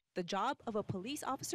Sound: NAT of sirens

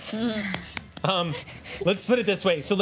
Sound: chuckles

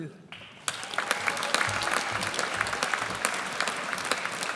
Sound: audience applauds

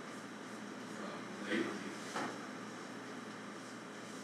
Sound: none

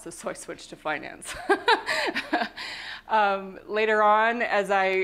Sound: laughter

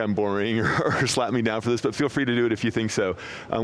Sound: laughs

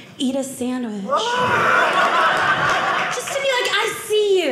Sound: audience laughing

